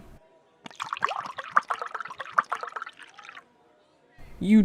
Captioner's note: liquid pours